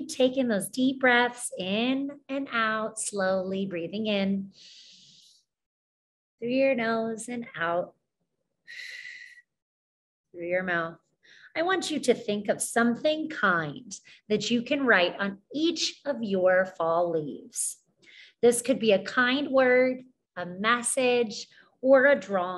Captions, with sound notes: Keep taking those deep breaths in and out slowly, breathing in (breathes in) through your nose and out (breathes out) through your mouth. I want you to think of something kind that you can write on each of your fall leaves. This could be a kind word, a message, or a drawing.